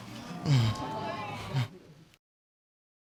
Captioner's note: audience exclaiming; chuckles quietly